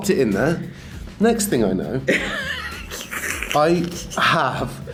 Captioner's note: Rian laughs